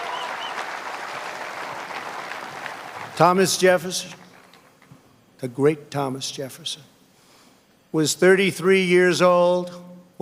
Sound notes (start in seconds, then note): 1.5 applause